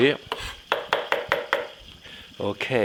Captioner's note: Jacques chopping